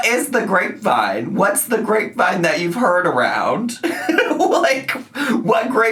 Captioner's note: laughs